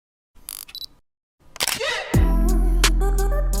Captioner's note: camera clicks; upbeat music plays